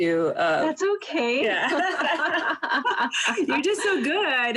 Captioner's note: laughing